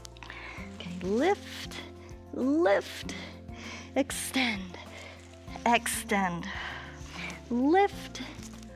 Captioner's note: exhales